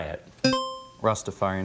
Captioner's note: buzzer chimes